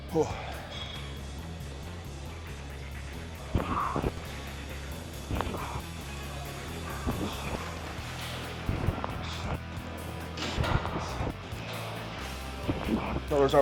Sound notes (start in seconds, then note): 1.3 breath whooshing; 1.3 upbeat rock music continues; 11.2 upbeat rock music continues